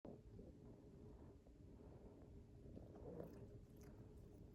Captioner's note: purring and human breathing throughout